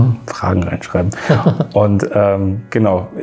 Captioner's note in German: lacht